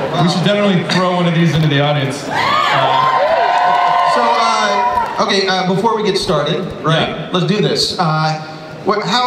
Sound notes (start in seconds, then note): 2.2 audience cheers